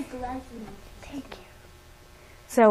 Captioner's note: whispering